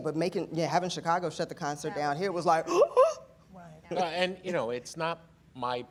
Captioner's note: shocked gasp